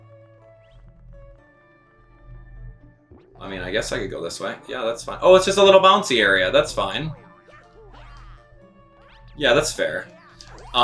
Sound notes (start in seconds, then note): 0.3 instrumental music; 7.7 gaming sounds